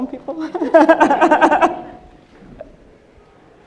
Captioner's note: laughing